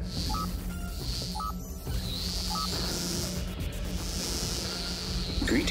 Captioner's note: static